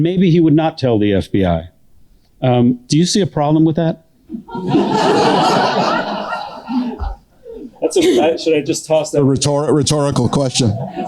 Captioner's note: laughter